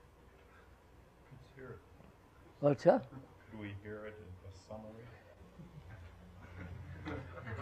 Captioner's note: laughter